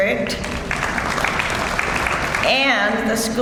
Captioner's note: audience applauds